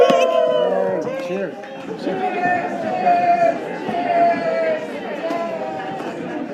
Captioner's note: group cheering; people chattering